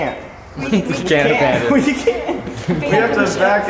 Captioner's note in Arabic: الجميع يتحدث